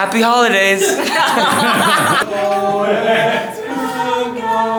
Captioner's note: both laughing